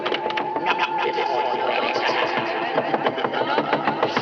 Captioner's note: woman's voice echoing; man's voice echoing